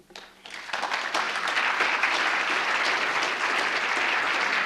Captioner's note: applause